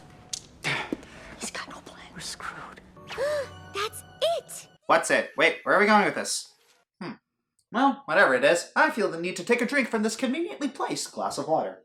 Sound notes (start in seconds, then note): 3.1 gasp